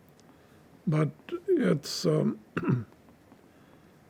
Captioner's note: clears throat